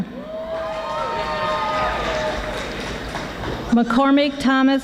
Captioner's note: audience applauding